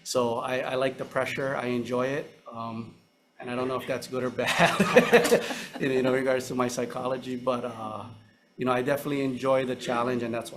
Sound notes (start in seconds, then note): 4.5 laughs